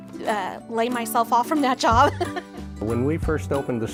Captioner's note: laughs